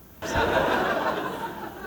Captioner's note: laughter